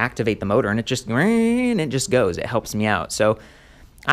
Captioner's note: imitates whirring motor